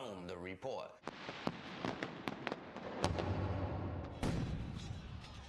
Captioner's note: crackling explosions followed by loud bang